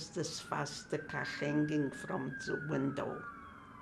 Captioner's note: sirens